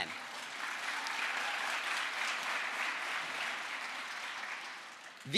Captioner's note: crowd applause